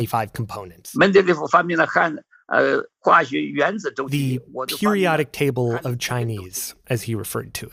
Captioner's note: speaking Mandarin